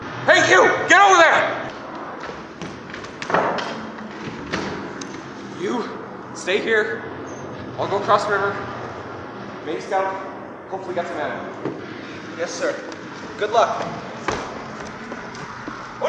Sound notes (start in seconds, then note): 0.0 WWII aircraft sounds; 1.3 WWII aircraft sounds; 11.2 WWII aircraft sounds; 13.6 WWII aircraft sounds